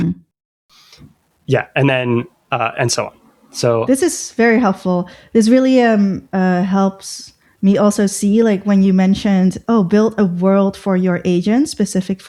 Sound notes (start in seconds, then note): 1.5 uh; 5.9 uh